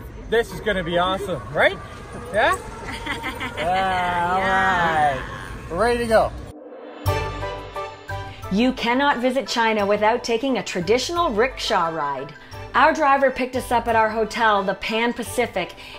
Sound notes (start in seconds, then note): 2.7 woman laughs